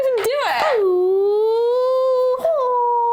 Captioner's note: karate noises